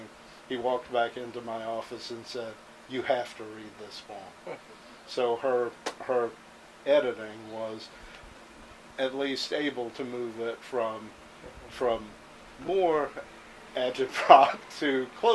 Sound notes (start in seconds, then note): 4.4 chuckles